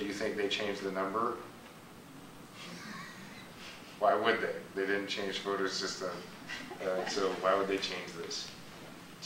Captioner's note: teacher laughs